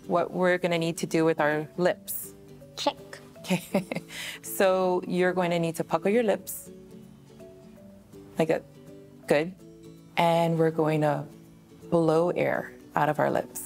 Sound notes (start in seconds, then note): 3.4 laughs